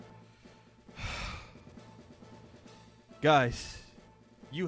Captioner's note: sigh